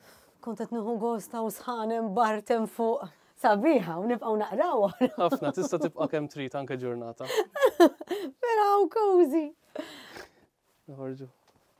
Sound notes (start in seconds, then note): 5.0 chuckles